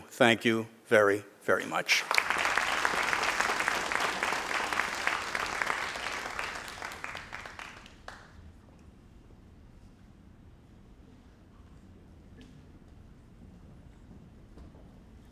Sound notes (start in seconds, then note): 1.6 crowd applauding